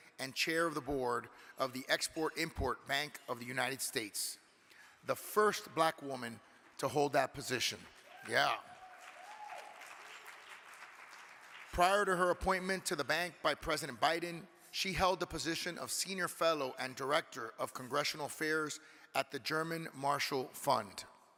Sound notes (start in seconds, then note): 8.1 audience cheering